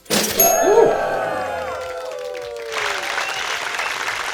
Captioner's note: applause